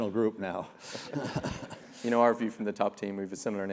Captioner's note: laugh